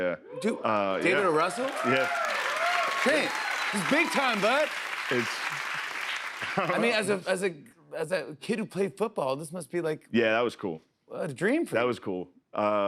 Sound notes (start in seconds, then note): 0.8 cheers and applause